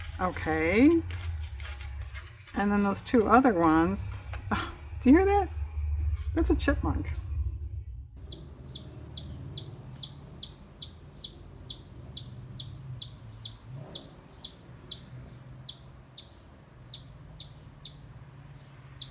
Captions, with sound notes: okay and then those two other ones-- (chirping sound) oh do you hear that? that's a chipmunk